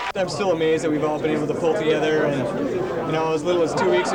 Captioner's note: loud crowds in background